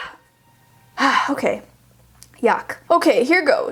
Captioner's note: sighs